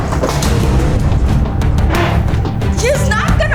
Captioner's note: table moves